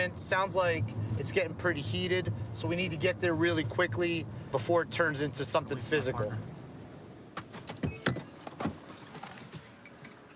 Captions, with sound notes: Sounds like it's getting pretty heated. So we need to get there really quickly before it turns into something physical. [beeping]